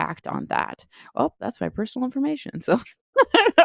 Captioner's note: laughs